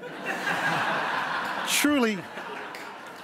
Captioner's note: crowd laughs